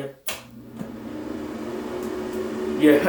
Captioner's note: the Exhaust Fan turns on